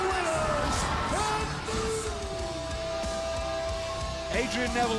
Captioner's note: crowd cheering; bell ringing